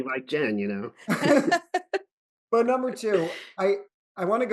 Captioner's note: laughter